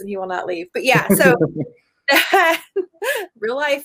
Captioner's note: laughs